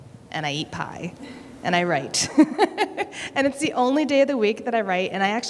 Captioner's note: laughter